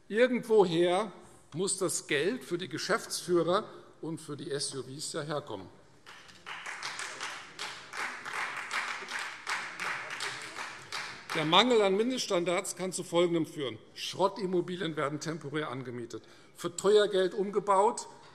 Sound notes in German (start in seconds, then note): 6.0 Beifall Freie Demokraten